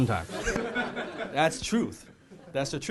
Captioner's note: laughing